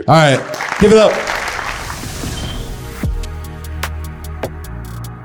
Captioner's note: attendees applauding